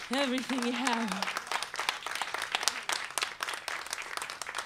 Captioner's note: applause